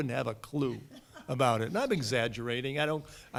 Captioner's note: laughter